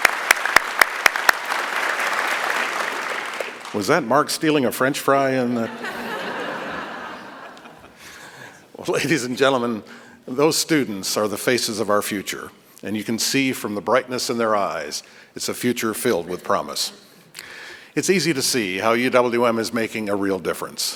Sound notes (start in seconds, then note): 0.0 applause